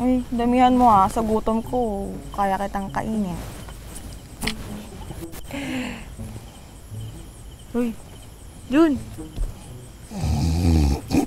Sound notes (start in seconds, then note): 5.4 giggling; 10.1 snoring